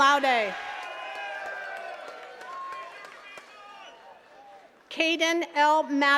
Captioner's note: attendees cheering and clapping